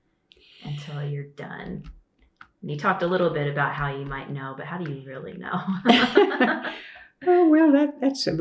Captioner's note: laughter